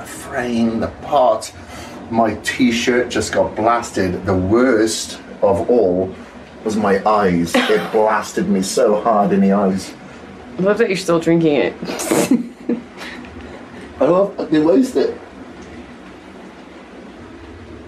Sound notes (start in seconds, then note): 7.5 laughs; 11.8 laughter